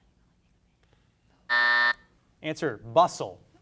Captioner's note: buzzer buzzes